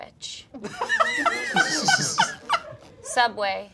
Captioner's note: laughing